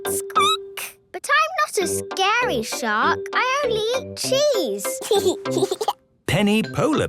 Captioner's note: squeaking; giggling